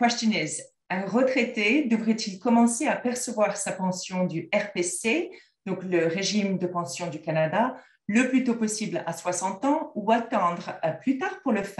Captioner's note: french